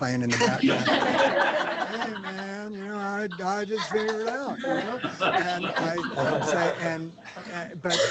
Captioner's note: laughter; laughter